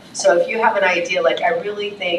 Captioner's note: none